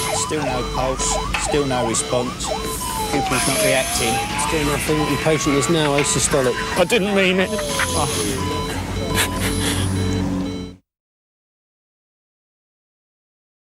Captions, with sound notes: Still no pulse, still no response Pupils not reacting. The patient is now asystolic I didn't mean it! *SOBBING*